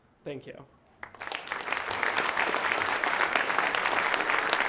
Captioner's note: audience clapping